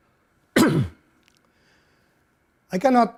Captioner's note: clears throat